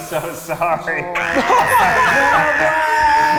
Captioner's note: screaming